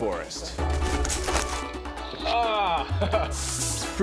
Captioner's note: sighs, laughs